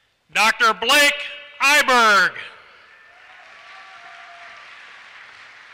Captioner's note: applause